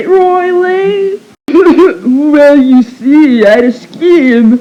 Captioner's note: cough cough